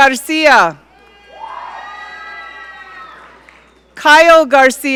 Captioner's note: audience cheering